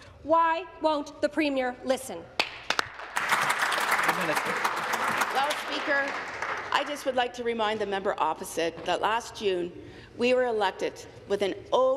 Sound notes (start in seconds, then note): 6.8 applause